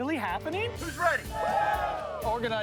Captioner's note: cheering